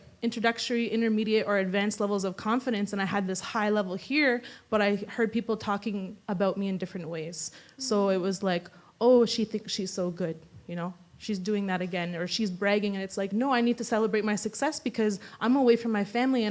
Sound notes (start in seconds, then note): none